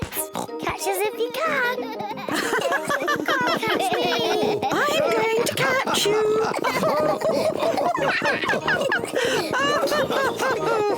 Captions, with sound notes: -Catch us if you can. -(LAUGHS) -Can't catch me! -I'm going to catch you. (ALL LAUGHING)